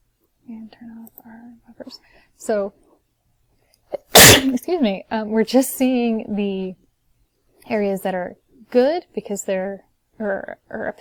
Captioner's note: sneezes